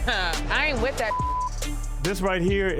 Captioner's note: beep